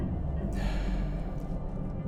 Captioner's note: gasps